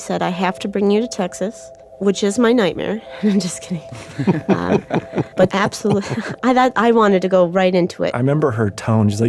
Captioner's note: laughs